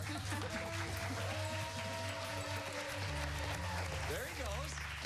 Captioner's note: applause